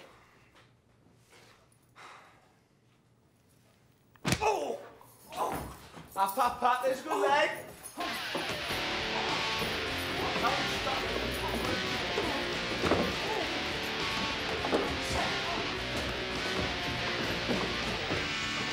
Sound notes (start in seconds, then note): 1.9 dog sighs; 4.4 Winston groans; 8.7 rock music plays